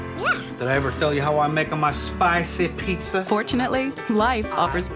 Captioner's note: with Italian accent